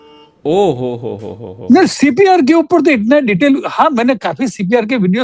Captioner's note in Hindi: हंसी